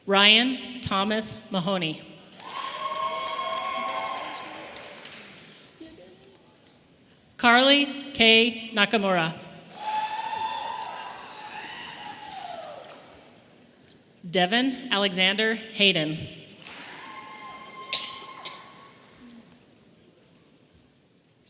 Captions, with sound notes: Ryan Thomas Mahoney. (audience applauding and cheering) Carly K. Nakamura. (audience applauding and cheering) Devan Alexander Hayden. (audience members cheering)